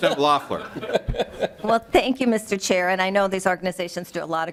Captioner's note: laughing